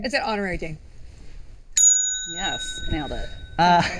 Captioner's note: ringing bell